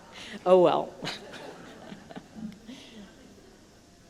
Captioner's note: laughter